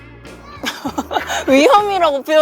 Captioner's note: laughter